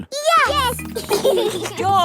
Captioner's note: giggling